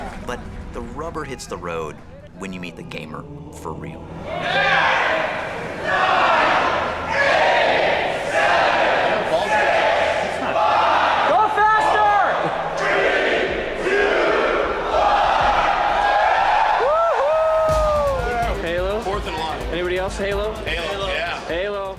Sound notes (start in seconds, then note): 15.9 loud cheering and hooting